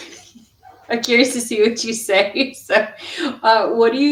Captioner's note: laughter